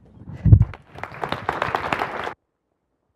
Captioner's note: applause; silence